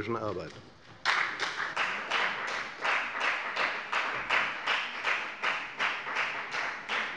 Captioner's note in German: Beifall bei der FDP